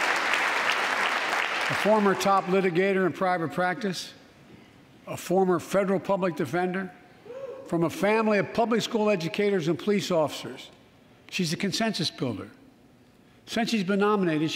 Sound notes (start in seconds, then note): 3.7 applause